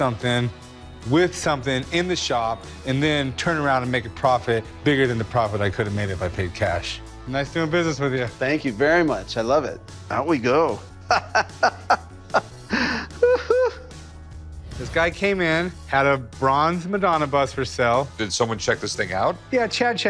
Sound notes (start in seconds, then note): 12.5 laughs